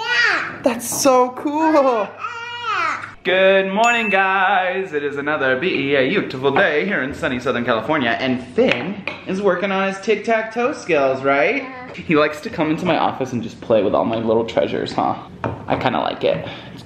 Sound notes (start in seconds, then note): 3.8 ding